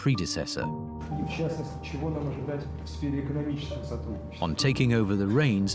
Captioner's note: person speaks in Russian